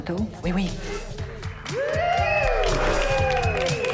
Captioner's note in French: applaudissements